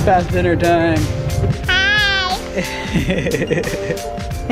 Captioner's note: laughs